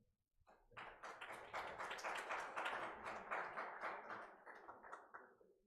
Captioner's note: audience clapping